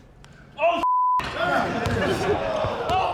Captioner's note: chattering